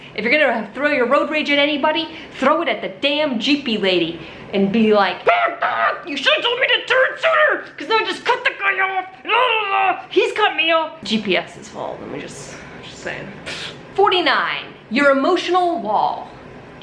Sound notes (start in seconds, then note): 5.2 shrieks; 9.8 groans; 13.4 scoffs